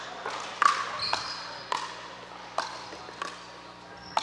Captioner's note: ball bouncing